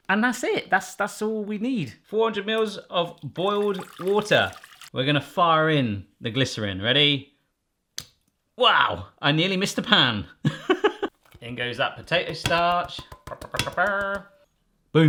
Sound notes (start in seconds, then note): 8.0 taps; 10.6 laughs; 11.8 tapping